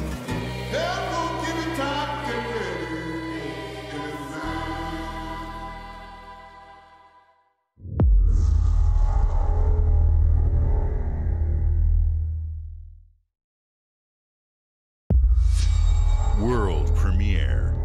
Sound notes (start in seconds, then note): 4.4 music trails off; 7.8 transition sound